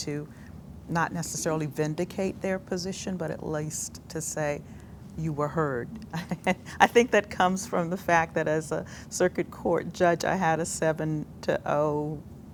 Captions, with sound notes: not necessary vindicate their position but at least to say, "You were heard." [Laughs] I think that comes from the fact that as a circuit court judge I had a 7-0